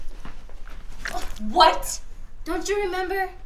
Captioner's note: vomit squishes